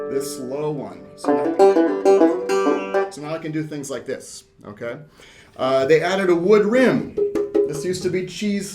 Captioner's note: sound of plucking banjo spring